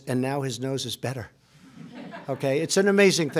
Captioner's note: laughter